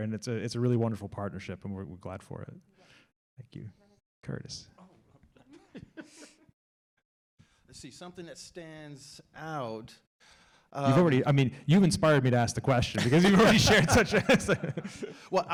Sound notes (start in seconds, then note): 5.4 laugh; 12.9 laugh